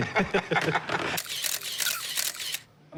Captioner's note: laughter; camera snapping